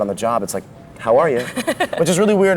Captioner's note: laughs